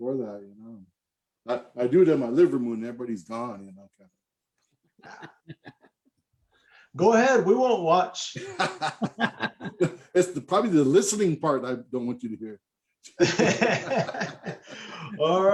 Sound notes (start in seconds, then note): 8.4 laughs